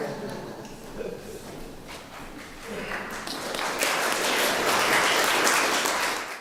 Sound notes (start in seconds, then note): 0.0 laughter; 2.5 applause